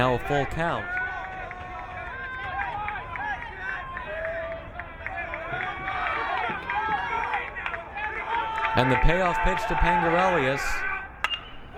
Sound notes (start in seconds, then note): 2.4 crowd cheering